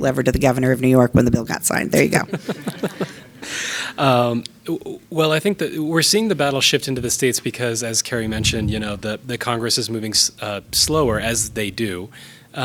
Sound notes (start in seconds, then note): 2.0 all laughing